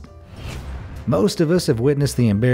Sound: air whooshing

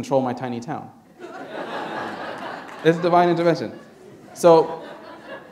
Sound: laughter

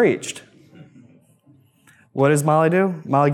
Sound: audience chuckles

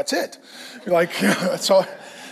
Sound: laughs

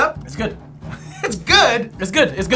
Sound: scoffs

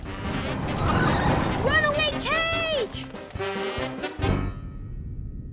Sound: rumbling

